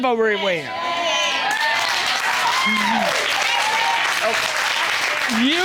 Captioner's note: cheers, applause